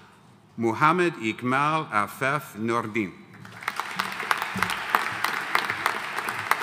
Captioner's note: audience applauding